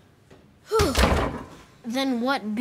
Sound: sighs

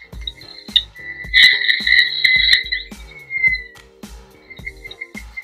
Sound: Neuralizer sound effects in the background

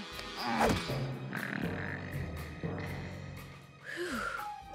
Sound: snoring

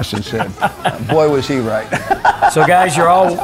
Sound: laughs

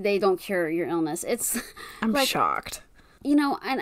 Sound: sarcastically

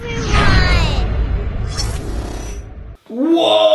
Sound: whooshing

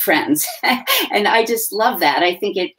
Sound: chuckles

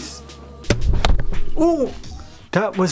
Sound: thunk

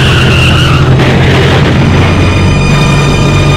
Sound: tires squealing; car crashing

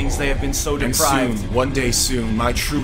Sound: discordant, high-pitched tones; distorted voice

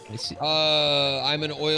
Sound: quietly

